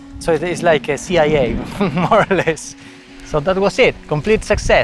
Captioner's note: laughs